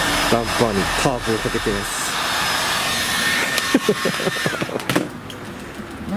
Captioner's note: laughs